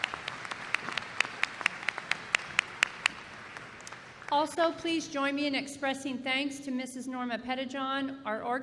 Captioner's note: applause